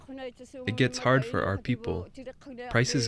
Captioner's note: speaking alternate language